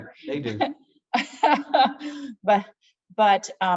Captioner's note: laughing